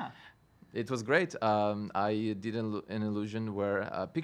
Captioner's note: stutters